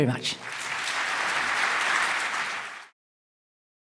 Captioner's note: applause